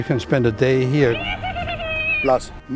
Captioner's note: laughs maniacally